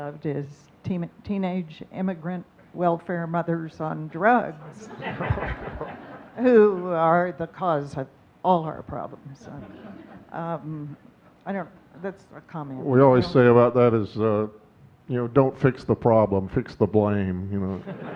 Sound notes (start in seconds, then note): 4.3 audience laughing